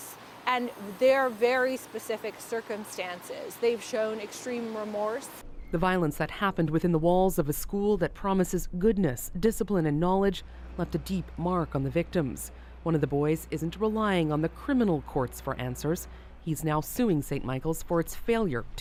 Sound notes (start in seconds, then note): none